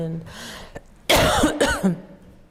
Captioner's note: coughs